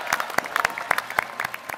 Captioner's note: applause